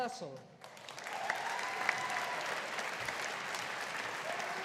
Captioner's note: audience applauding